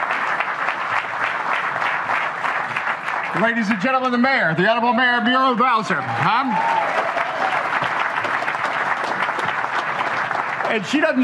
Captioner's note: applause